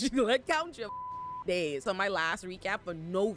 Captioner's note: beep